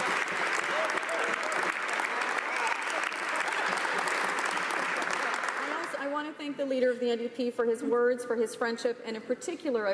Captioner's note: laughter